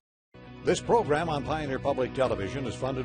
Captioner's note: voiceover